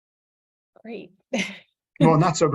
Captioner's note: laughs